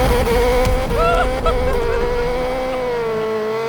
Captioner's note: laughing